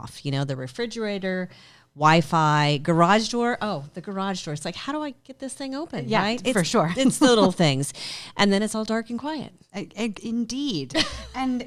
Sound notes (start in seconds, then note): 6.9 chuckles; 11.0 chuckles